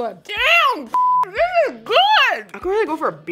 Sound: beep

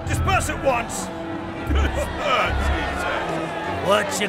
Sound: laughing

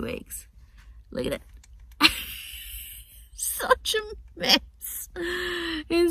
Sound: laughing

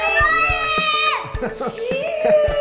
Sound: screams

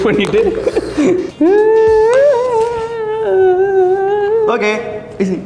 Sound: humming

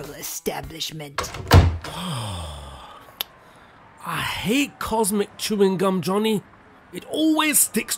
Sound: sighs

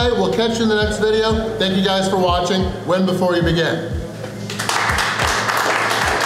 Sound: clapping

